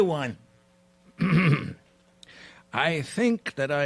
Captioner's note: clears throat